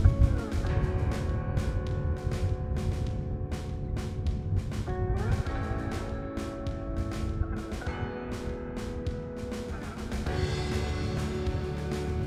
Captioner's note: wind blowing, background music